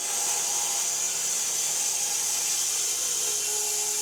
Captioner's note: saw buzzing